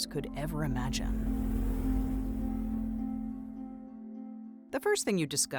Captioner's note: gentle intriguing music; transition whooshes